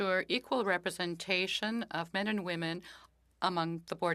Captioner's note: speaking French